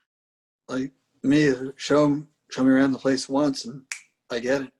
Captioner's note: snaps fingers